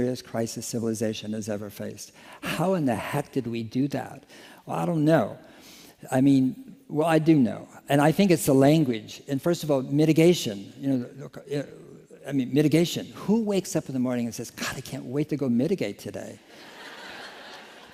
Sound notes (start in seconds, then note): 16.4 laughter